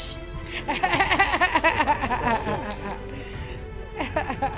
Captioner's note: Sophia laughing